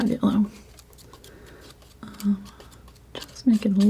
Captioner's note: scratching